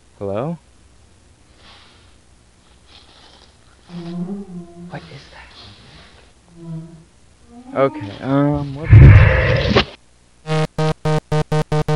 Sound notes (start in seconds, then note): 3.9 monster hums; 8.8 monster growls